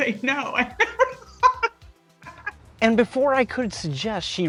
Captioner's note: laughs